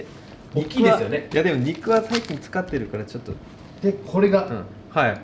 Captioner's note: talking in japanese